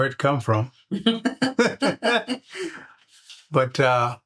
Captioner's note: laughter